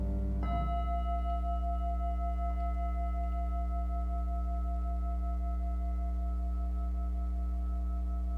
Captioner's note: singing bowl rings